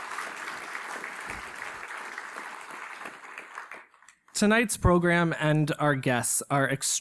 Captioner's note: applause